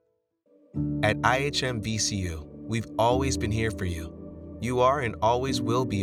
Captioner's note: voiceover